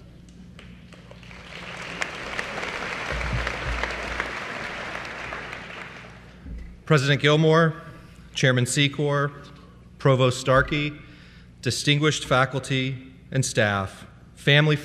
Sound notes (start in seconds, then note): 0.9 applause